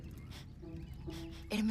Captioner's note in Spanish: olfatea